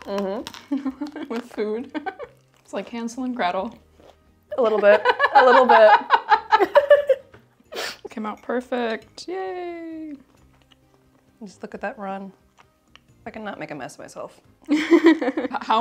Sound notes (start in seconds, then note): 7.2 laughs